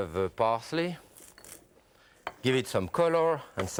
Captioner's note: parsley snips